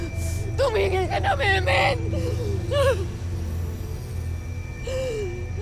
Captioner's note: sobbing continues